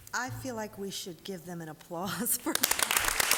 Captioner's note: applause